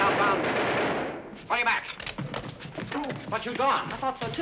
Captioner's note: gunfire